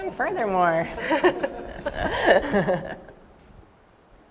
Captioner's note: laughter